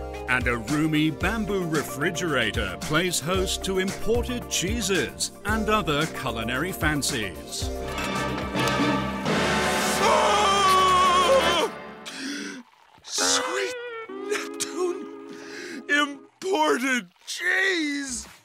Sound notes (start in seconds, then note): 9.8 screaming; 12.0 gasping